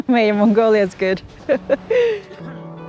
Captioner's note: laughing